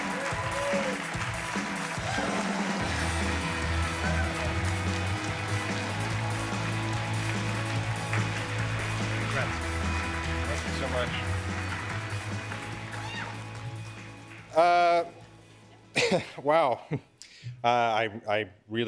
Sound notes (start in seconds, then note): 4.1 cheers and applause